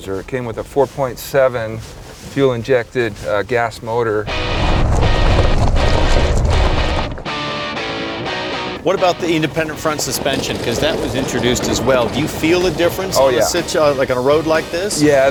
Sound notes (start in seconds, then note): 4.6 rocks rattling